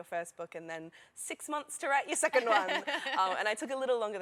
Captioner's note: laughter